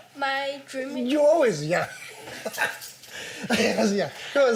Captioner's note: chuckles